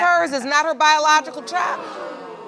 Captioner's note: audience gasps